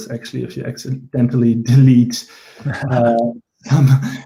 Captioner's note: chuckles